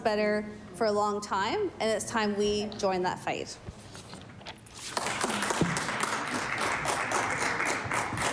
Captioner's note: applause